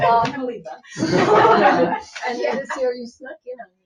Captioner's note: people laughing